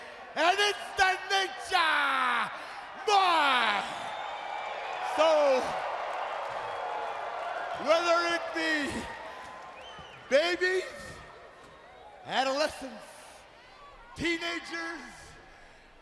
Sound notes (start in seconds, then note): 6.0 crowd cheering